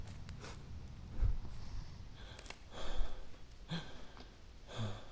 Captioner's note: staggered breathing